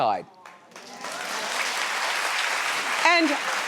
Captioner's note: audience clapping